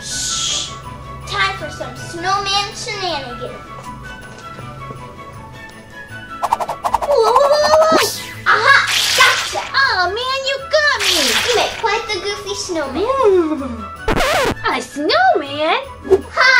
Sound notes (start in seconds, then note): 6.4 fast comical whooshes; 8.6 liquid squishes; 13.2 shivers; 14.0 record scratches